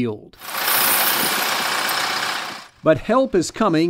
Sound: sound of tractor

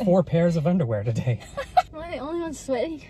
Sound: laughing

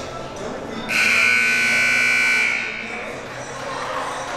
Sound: siren buzzing

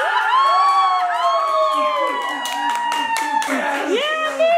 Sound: all cheering

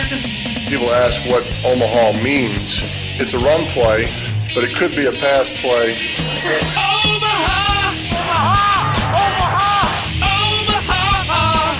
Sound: laughs

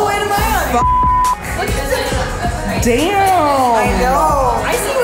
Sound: beep

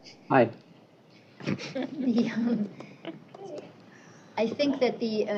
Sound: laughter

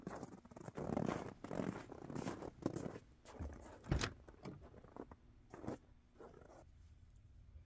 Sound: footsteps

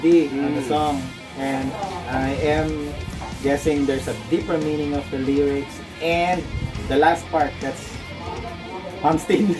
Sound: Riendo

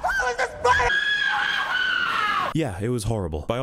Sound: even more obnoxious screaming

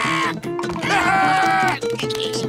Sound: screaming

